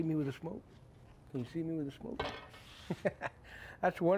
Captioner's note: laughs